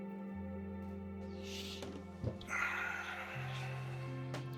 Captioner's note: sighs